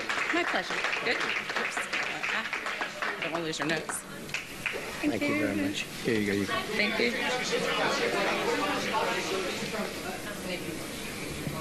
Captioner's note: applause